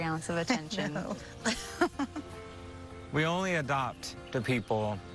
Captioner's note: laughing